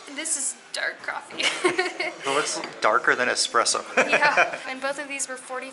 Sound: laughter

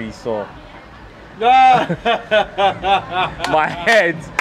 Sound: laughs and claps

